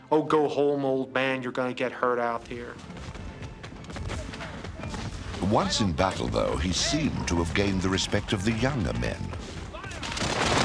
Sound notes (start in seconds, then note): 1.5 guns firing; 9.4 guns firing